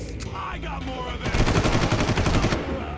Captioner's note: gun firing